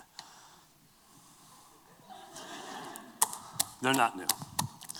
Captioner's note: laughter